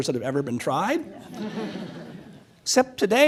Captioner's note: laughs